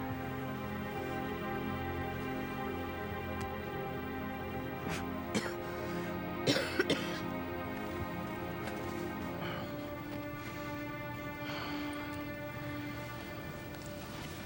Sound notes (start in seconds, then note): 4.8 Sharon coughs